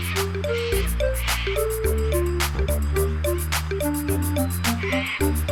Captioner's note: bird sounds